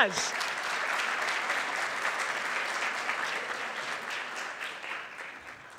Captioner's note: audience applauding